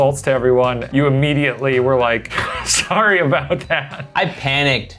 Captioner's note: laughs